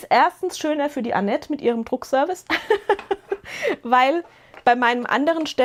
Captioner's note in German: gelächter